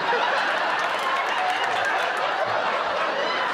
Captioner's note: laughter